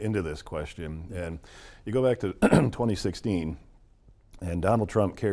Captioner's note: clears throat